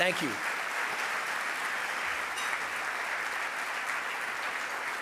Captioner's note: audience applause